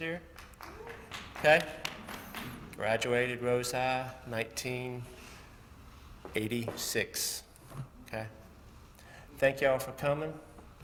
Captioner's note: applause